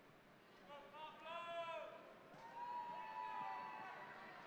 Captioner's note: audience cheering